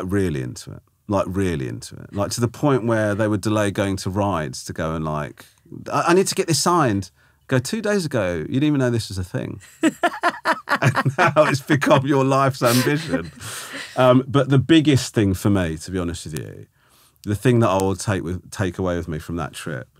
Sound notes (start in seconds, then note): 9.6 laughing